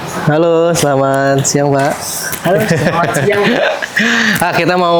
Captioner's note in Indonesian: tertawa